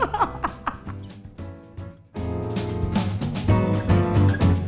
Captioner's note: laughing; light jazz music